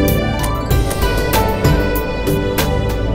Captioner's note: Car door closes